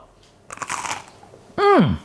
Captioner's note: crunch